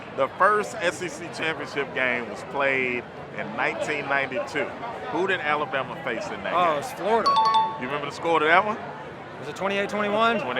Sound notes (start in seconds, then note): 7.2 chime dings